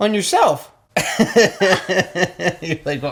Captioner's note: laughing